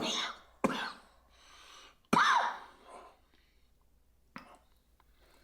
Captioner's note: coughing